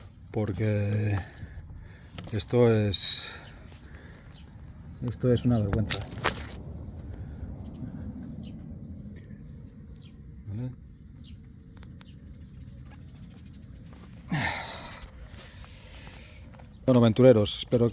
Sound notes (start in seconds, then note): 9.9 sigh